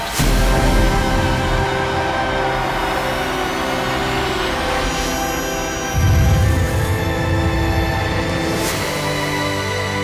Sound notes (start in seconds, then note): 6.0 booming